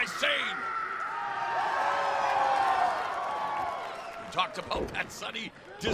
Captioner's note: crowd cheering